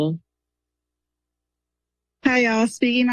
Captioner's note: silence